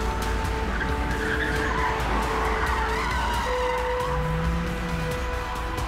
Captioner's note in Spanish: Chirrido de llantas